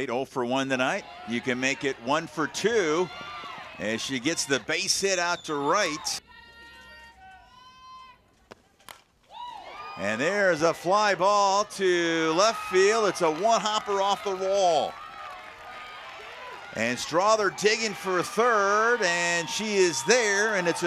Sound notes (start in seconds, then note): 8.4 crowd cheers; 8.8 batt cracks